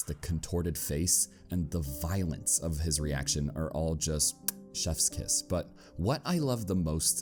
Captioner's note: muah